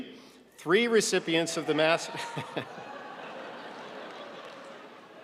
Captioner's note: audience laughing